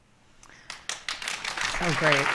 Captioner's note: applause